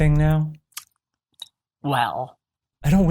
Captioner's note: rumble ceases to accentuate this video's single solitary joke